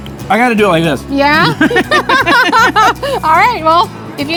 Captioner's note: laughing